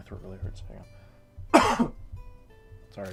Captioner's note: cough